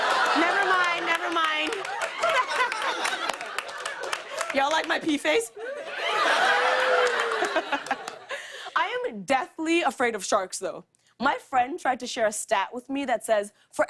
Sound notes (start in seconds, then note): 1.9 laughter; 5.5 cheers and laughter